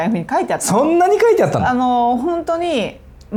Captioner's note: laughs